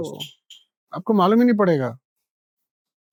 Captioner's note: speaking in Hindi